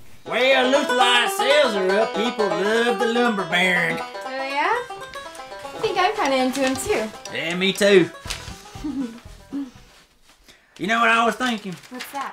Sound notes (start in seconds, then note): 8.7 giggles